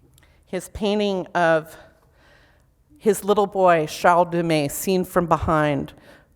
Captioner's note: foreign language